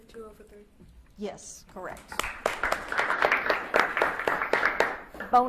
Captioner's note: audience claps